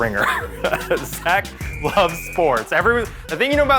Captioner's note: chuckles